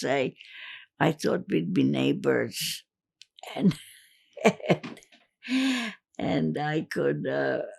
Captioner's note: laughing